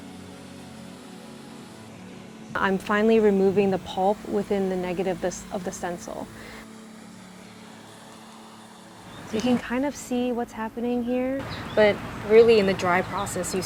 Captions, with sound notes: I'm finally removing the pulp within the negative of the stencil. (water rustling) So you can kind of see what's happening here. But really, in the dry process,